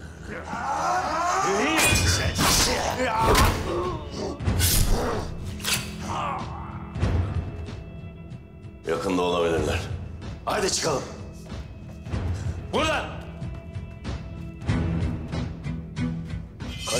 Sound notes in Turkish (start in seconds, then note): 0.4 Dövüş Sesleri